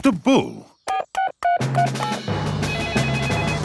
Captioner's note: beeping; phone ringing